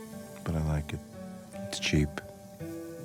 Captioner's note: can spraying